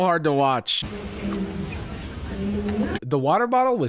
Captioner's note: white noise